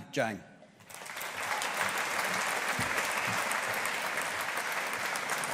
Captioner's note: audience applauding